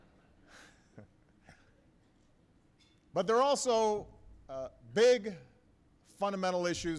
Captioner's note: laughter